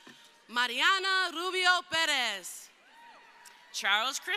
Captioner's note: crowd cheering